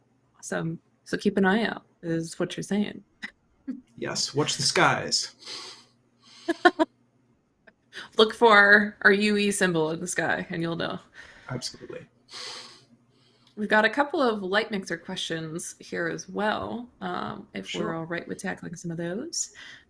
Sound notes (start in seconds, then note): 3.0 chuckles; 6.4 chuckles; 11.6 chuckles